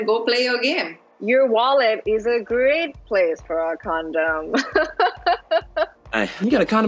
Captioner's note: laughs